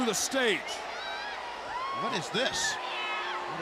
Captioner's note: crowd chatter